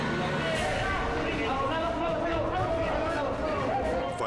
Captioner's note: all shouting in Spanish